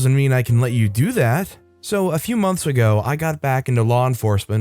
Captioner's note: David Attenborough voice